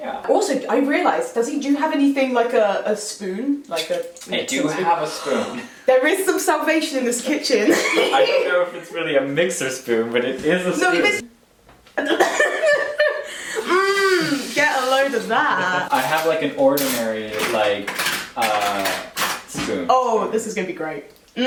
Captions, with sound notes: Also, I realise that do you have anything like a- a spoon? Like a mixing spoon? -I do have a spoon- There is some salvation in this kitchen *laughs* I don't know if it's a mixer spoon. But it is a spoon. *Laughs* MMMM, get a load of that! I have like a ordinary, like, er, spoon. Oh, this is gonna be great.